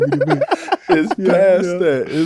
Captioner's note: all laughing